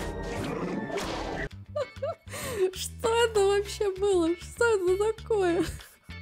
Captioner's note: laughs